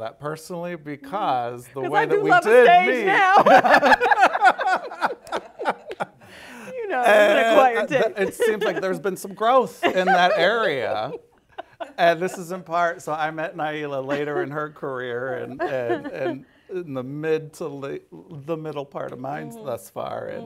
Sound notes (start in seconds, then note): 3.2 laughter